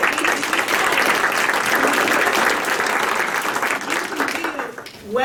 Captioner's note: applause